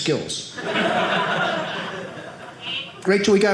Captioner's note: audience laughing